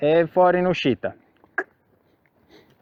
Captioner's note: cluck